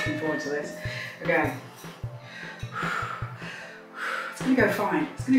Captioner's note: deep breath